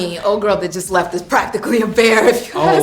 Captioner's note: laughing